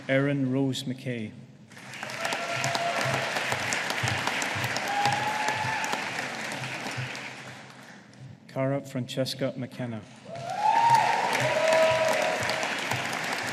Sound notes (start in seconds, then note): 1.7 audience applauding; 10.2 audience applauding